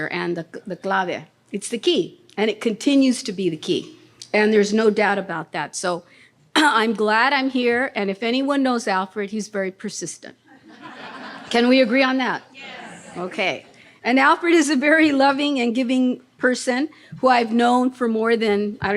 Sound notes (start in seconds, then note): 10.6 audience laughing